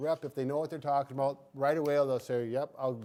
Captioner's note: snaps fingers